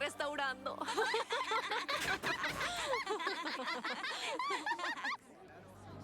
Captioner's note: giggles